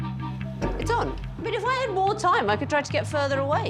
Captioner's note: upbeat music; iron thudding